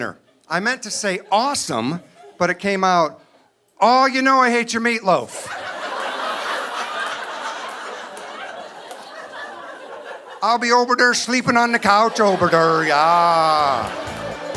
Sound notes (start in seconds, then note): 5.3 audience laughing